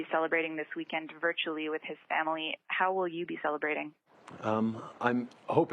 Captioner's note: speaking in French